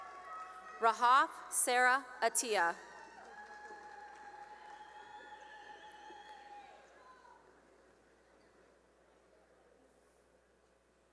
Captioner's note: cheering and applause